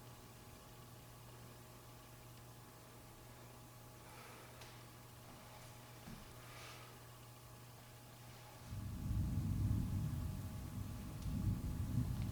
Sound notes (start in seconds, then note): 8.7 thunder